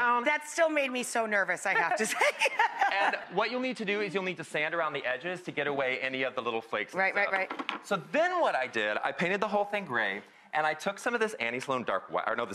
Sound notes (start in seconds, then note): 1.8 laughing